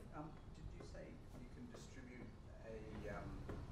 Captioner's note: voiceover